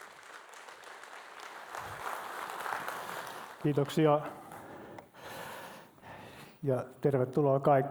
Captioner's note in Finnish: Aplodeja